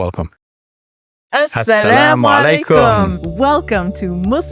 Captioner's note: hosts speaking in foreign language